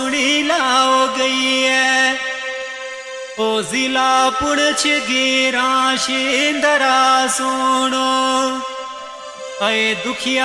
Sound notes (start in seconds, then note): none